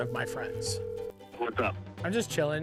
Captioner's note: phone calling